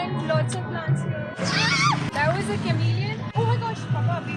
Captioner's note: screams